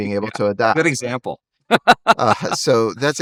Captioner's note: laughs